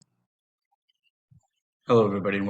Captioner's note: silence